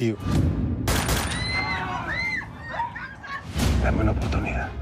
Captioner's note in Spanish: Exclamaciones; Disparos